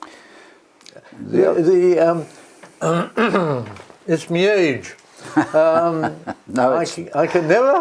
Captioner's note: cough